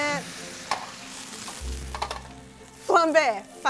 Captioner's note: sizzling